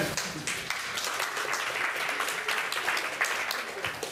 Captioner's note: applause